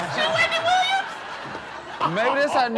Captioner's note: laughs